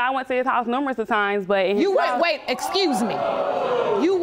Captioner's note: audience gasps